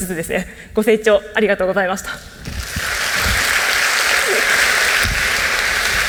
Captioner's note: applause